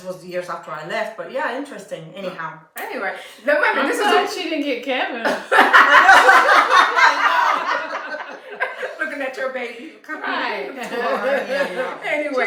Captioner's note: laughter